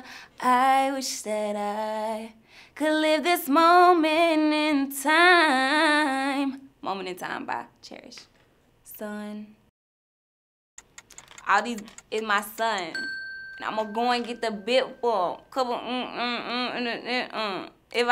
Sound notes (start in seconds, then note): 12.8 bell dings; 15.7 mumbles to the beat